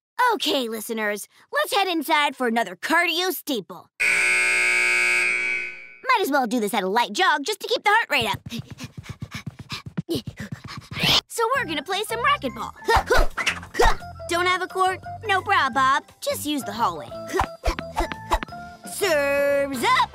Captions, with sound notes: OK, listeners, let's head inside for another cardio staple. [buzzer] Might as well do this at a light jog just to keep the heart rate up. [panting] So we're gonna play some racquetball. [groaning] Don't have a court? No prob, Bob! Just use the hallway. [bouncing] Serve's up!